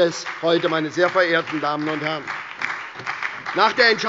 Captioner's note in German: Beifall bei der SPD und den LINKEN sowie bei Abgeordneten der FDP